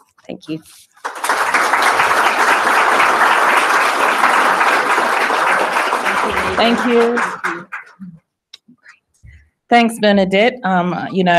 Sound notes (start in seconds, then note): 0.9 applause